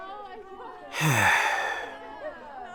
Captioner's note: sigh